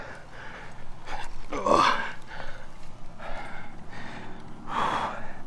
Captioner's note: grunting